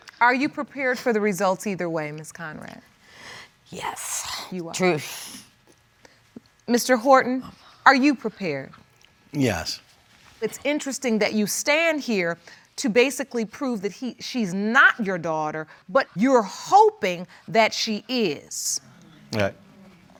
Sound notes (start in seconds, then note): 3.1 exhales